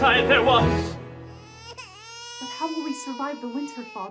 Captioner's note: baby Crying